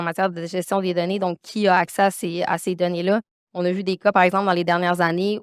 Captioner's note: continues speaking French